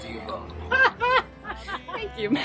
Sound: laughter

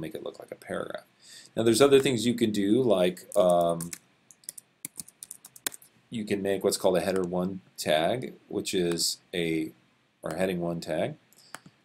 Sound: typing

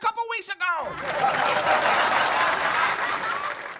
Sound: laughter/applause

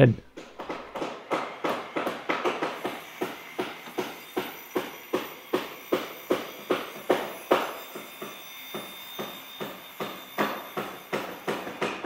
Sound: construction noise

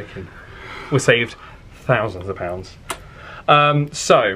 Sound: lips smacking

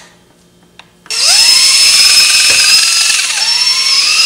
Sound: drilling

